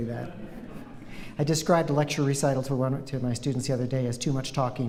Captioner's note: laughter